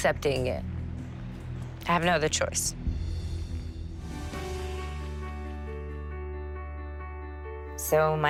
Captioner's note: voice breaking